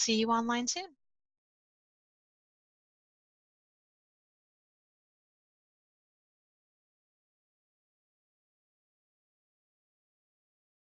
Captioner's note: silence